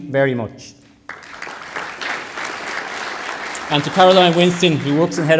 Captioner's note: applause